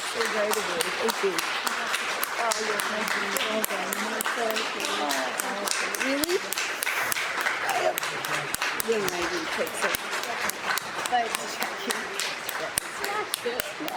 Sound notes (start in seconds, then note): 0.0 applause